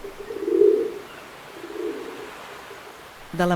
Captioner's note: cooing of pigeons